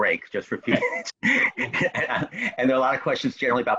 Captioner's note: both laughing